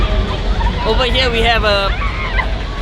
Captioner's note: muffled violence